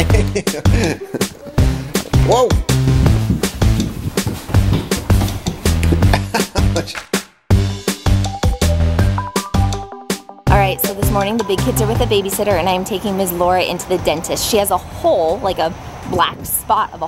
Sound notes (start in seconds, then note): 0.0 man laughs; 1.8 lively music; 5.5 laughs; 7.9 lively music